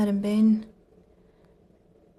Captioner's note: speaking French